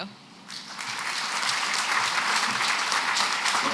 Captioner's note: applause